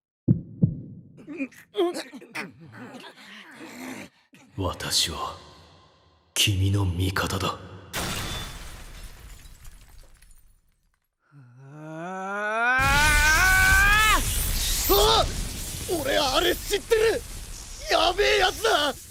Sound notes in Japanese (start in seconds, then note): 0.2 大瀬の心音; 1.2 苦しんでいる６人の声